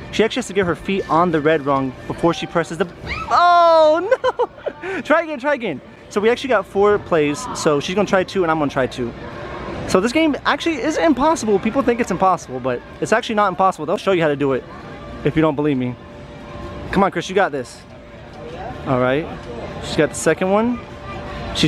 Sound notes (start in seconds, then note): 3.0 screaming